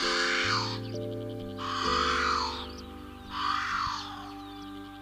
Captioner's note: ‘Alalā vocalizations